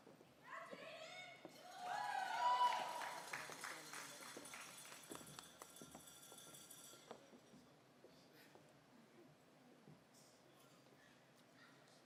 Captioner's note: applause